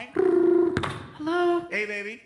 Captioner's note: imitates phone ringing, click